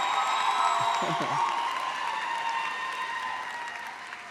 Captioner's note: laughs